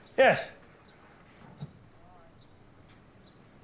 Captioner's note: silence